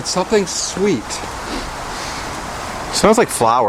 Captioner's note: both Sniffing Deep